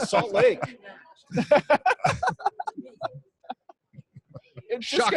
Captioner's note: all laughing